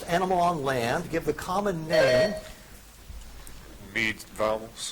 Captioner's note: buzzer chiming